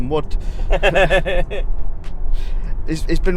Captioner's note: laughing